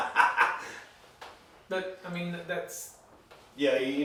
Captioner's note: laughing